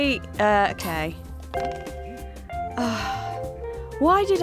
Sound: sigh of relief

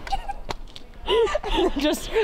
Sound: laughter

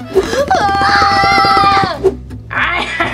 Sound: everyone screams; Captain Hook laughs

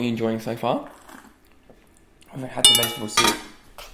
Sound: slurping

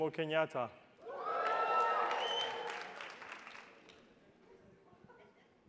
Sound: attendees applauding

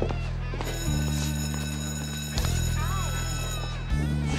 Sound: bell ringing

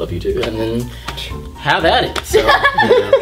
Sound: laughter

